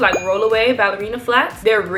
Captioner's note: bell chimes